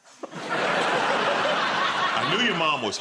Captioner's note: laughter